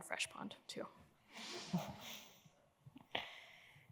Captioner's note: laughter